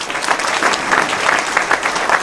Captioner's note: applause